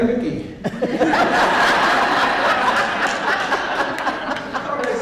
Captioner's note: audience laughs